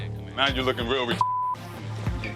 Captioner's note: beep